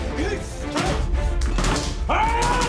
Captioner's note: axe hitting door